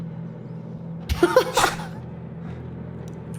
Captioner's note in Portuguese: risos